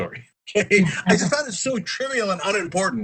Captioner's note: laugh